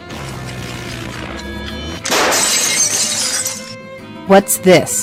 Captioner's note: loud crashing